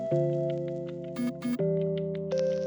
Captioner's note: phone buzzes